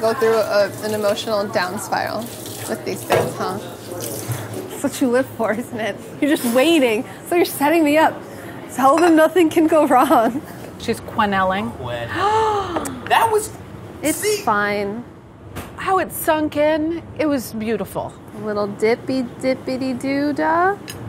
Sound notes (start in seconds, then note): 12.1 gasping